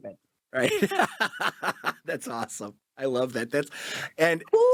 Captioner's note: laughs